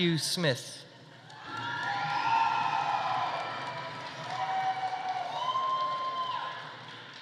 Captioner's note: audience applauding; audience cheering